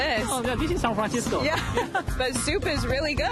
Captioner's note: laughs